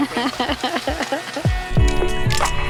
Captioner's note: laughter